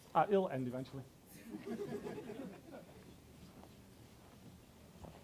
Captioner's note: audience laughs